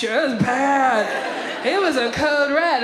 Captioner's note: audience laughs